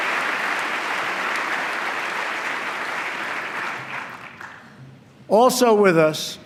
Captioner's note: applause